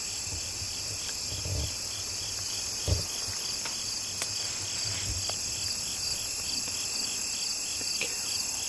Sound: crickets chirping

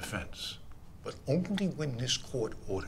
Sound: none

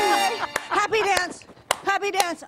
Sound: applause

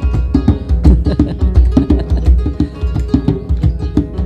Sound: laughing

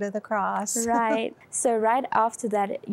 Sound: giggle

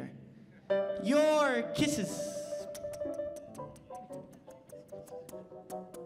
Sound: smacks Lips

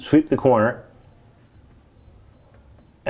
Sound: beeping

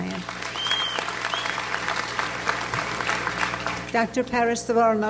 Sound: audience applauds

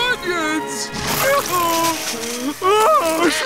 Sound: crying

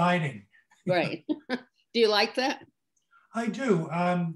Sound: laughs

